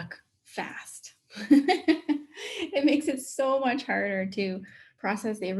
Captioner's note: laughs